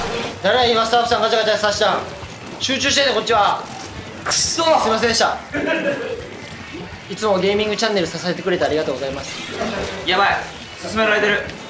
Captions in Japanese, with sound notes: 誰や 今スタッフさん ガチャガチャさしたん 集中してんねん こっちは くっそ！ すみませんでした！ （笑い） いつもゲーミングチャンネルを 支えてくれてありがとうございます やばい！進められてる！